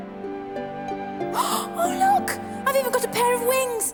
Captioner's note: gasps